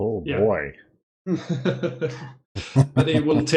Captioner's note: laughter